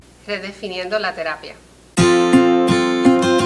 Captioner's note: speaking foreign language; hopeful instrumental music